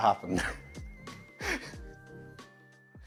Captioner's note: chuckles